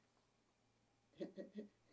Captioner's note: laughing